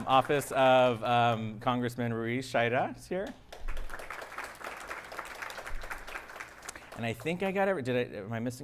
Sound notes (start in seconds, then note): 3.5 audience applauding